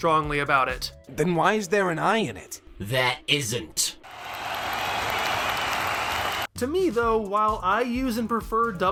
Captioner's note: applause